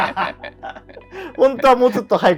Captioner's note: laughing